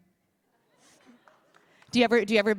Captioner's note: applause